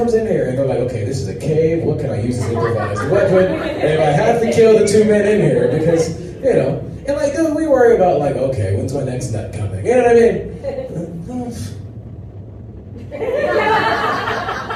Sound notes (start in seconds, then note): 11.4 laughter